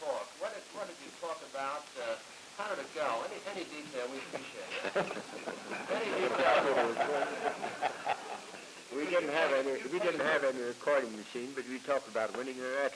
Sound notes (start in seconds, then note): 6.6 laughter